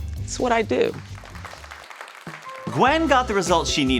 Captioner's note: crowd clapping